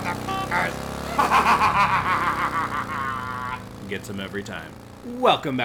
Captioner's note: cackling